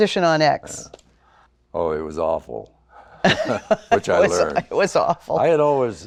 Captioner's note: laughs